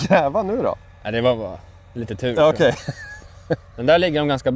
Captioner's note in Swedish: skratt